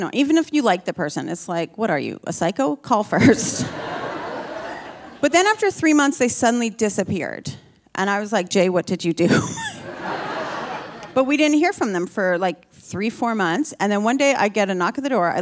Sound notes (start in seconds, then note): 3.3 audience laughing; 9.4 laughing; 9.6 audience laughing